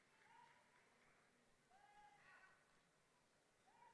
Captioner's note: yelling